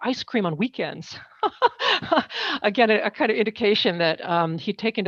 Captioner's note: laughs